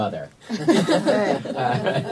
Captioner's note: laughter